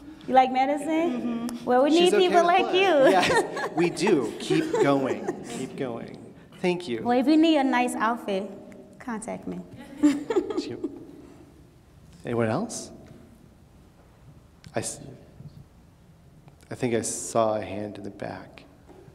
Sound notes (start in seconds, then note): 0.0 chuckles; 2.6 laughs; 9.8 laughing